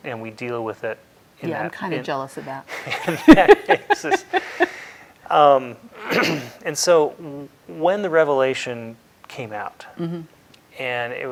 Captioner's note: laughter